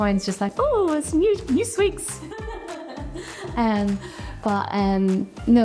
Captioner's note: laughs